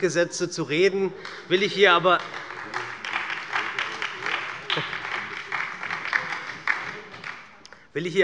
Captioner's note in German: Beifall bei der SPD und der LINKEN